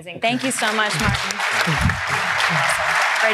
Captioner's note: applause